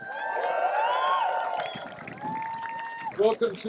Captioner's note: cheering, applause